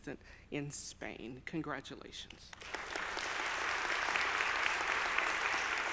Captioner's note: audience applauding